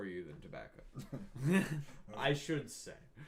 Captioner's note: laughing